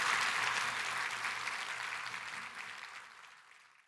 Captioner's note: applause; cheering and applause